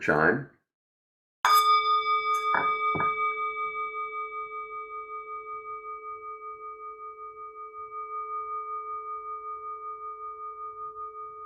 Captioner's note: chime